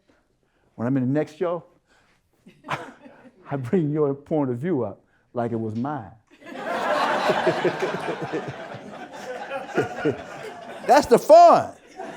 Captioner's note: audience Laughter